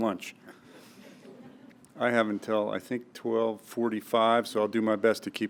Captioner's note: laugh